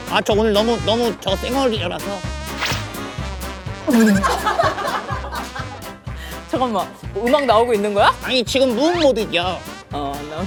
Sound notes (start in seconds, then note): 2.6 thwack